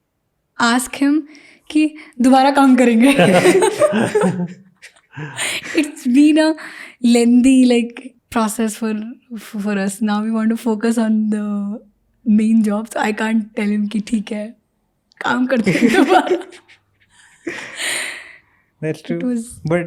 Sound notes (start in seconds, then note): 4.0 speaks in Hindi; 15.7 chuckles